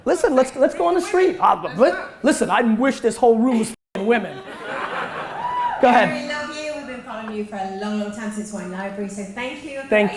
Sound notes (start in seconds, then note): 4.1 audience laughter